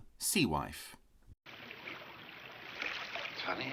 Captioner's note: water splashes